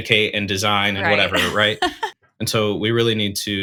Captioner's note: chuckles